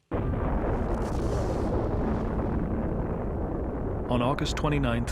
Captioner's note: explosion roaring